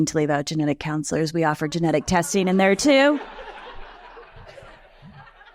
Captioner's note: chuckles